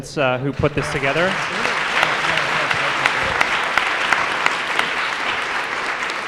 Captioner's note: applause